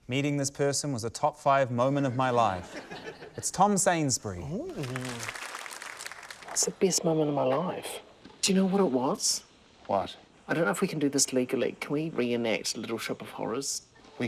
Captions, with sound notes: - Meeting this person was a top five moment of my life. (LAUGHTER) - It's Tom Sainsbury. - Oh! (APPLAUSE) - What's the best moment of my life? Do you know what it was? - What? - I don't know if we can do this legally. Can we re-enact Little Shop Of Horrors?